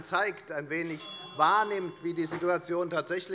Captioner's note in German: Unruhe - Glockenzeichen des Präsidenten